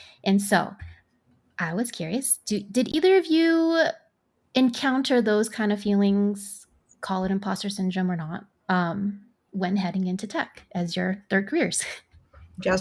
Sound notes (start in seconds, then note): none